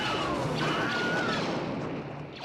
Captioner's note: Wilhelm Scream